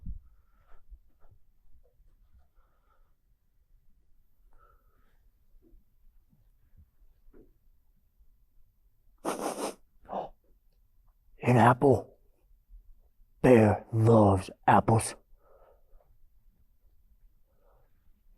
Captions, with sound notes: [sniffing noise] Oh, oh, an apple. Bear loves apples.